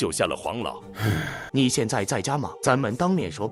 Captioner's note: sighs